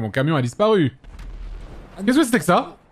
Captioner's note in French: explosion au loin